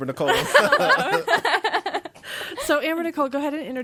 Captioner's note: laughing